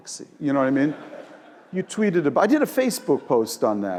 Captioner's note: laugh